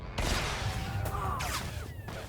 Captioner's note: gun firing